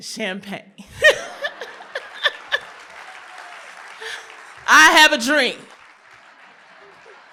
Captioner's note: laughter